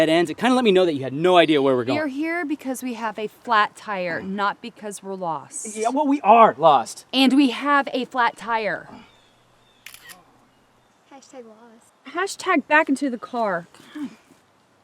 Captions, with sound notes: it kind of let me know that you had no idea where we're going. - We are here because we have a flat tire, not because we're lost. - Yeah, well we are lost. - And we have a flat tire. (camera shutter clicks) - Hashtag lost. - Hashtag back into the car.